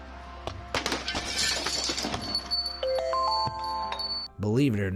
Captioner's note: bright music; glass shattering; bell ringing